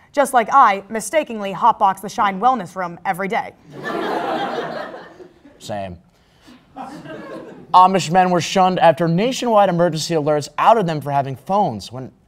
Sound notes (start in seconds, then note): 3.7 crowd Laugh